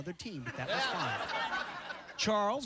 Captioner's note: laughter